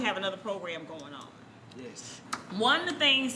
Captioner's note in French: voix d'homme